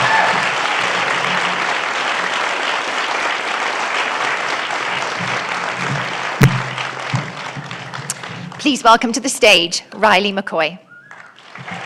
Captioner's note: applause